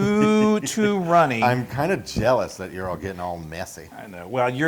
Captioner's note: laugh